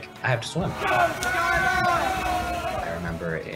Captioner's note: yelling